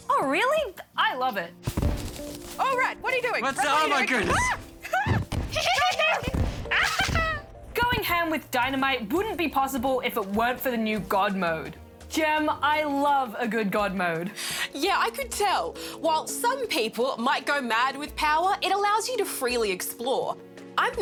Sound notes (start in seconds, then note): 4.8 laughs